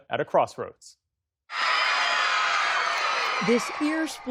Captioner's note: cheering